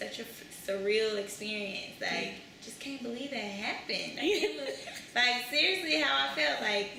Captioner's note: laughter